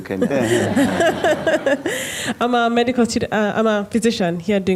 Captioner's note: laughter